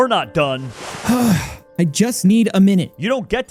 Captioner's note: deep breath